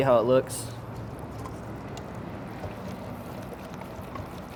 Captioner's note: whisks